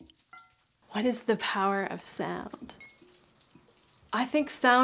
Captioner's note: water dripping; voiceover